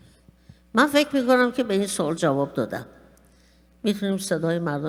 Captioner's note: speaking persian